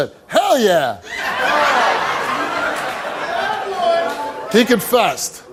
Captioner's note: audience laughs